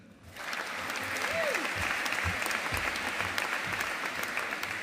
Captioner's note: audience applauding